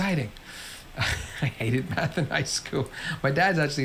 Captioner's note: laughs